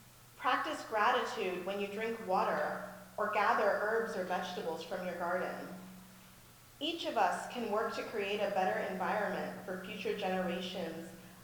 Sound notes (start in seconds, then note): none